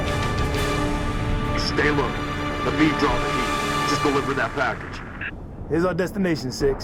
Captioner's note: radio